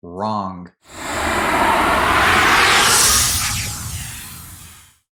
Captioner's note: motor roaring